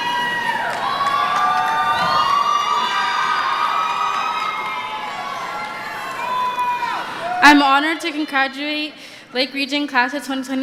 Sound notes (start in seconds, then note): 2.4 cheering